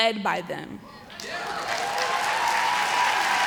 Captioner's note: applause